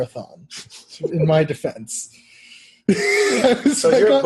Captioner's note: laugh